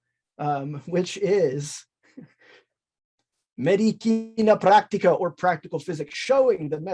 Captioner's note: chuckles